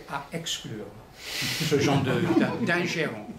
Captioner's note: laughter